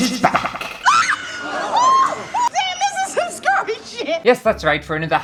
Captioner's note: screams!